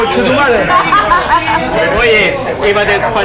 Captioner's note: laughs